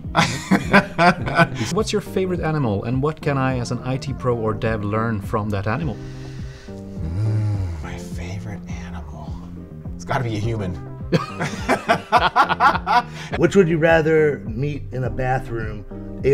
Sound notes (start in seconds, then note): 0.1 laughs; 11.1 laughing